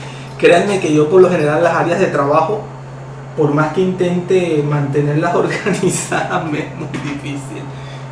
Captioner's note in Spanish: risas